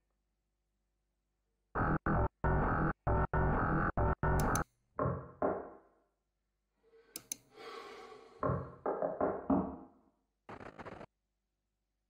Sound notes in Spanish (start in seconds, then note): 5.7 Golpes; 8.4 Golpes